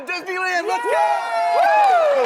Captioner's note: panel whoops and cheers; audience claps